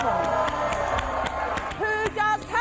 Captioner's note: audience applauding and cheering